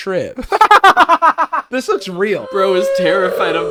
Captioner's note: laughs